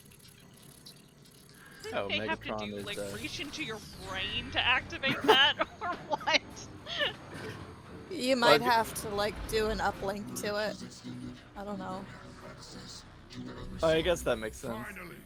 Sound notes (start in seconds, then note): 6.8 laugh